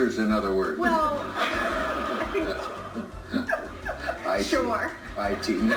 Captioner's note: forced laugh